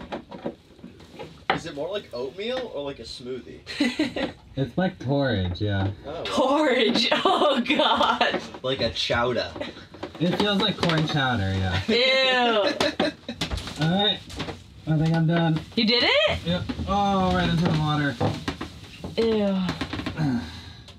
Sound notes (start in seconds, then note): 3.9 laughing; 12.5 laughing